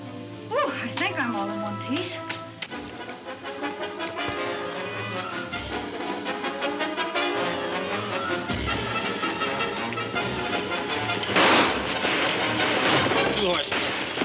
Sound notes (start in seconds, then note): 2.6 thrilling music; 11.2 guns firing